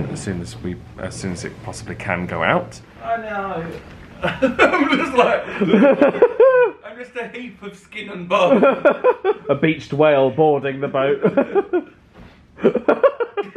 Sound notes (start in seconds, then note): 4.2 both laughing; 8.4 laughs; 12.6 laughs